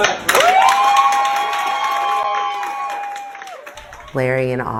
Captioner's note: audience applauds